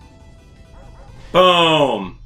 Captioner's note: dog barks